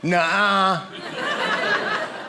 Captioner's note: audience laughing